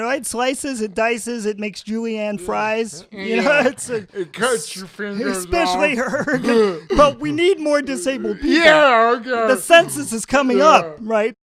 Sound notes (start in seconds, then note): 6.7 laughs